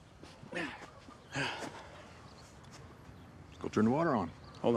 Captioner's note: Isaac groans